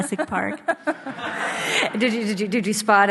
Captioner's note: audience laughs